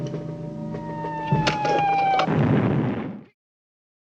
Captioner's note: explosion